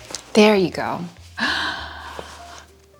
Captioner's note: gasp